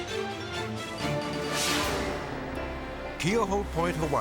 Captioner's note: air whooshes